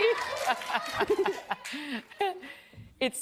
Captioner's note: applause